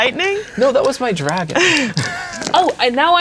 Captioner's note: chuckling